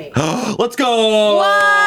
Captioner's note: gasps